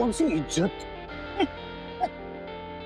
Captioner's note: snickering